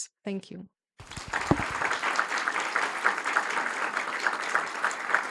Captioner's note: audience applauding